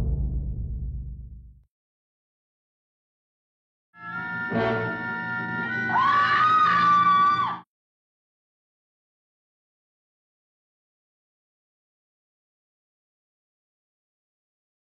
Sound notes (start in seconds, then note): 3.9 person screaming; 4.0 suspenseful music